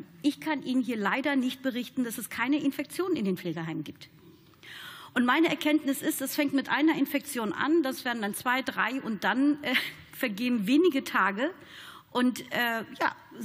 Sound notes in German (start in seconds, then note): none